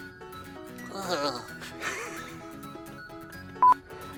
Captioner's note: laughs